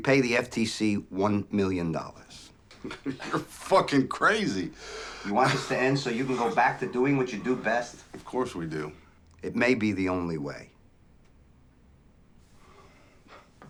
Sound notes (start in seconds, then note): 2.2 laughs